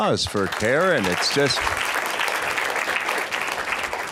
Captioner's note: applause